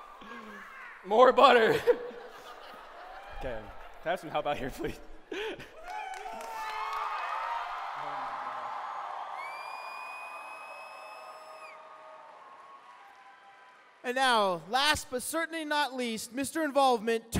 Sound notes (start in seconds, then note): 5.7 applause